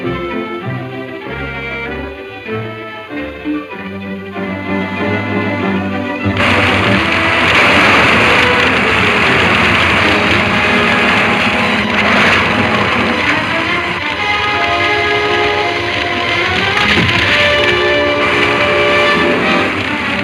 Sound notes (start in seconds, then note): 7.1 fire roaring; 7.1 trees snapping; 17.2 tree crashing